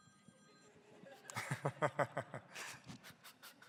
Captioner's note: laughs